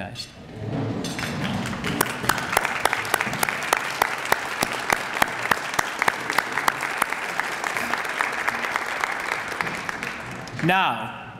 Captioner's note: applause